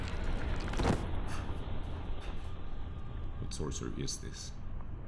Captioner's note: man thuds